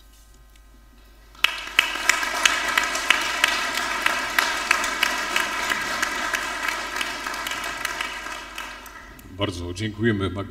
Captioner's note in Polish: oklaski